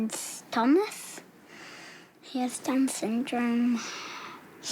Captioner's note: sighs